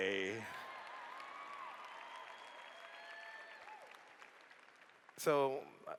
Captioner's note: cheers